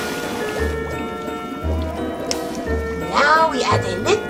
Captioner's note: cauldron bubbling